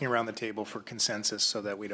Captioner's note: speaking French